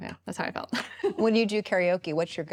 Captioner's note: laughs